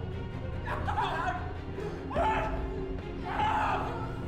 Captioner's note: yelling